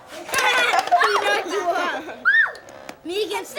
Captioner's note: laughs